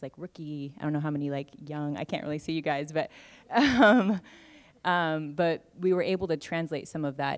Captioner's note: laughs